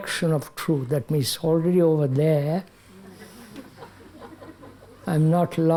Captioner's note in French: rires